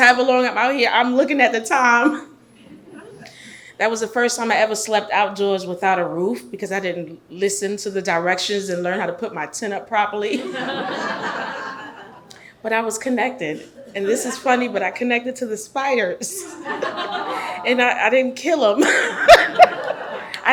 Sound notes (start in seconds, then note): 10.3 audience laughs; 18.7 laughs